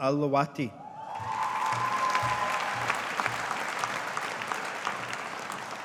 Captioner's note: audience applauding